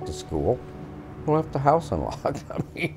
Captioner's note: laughs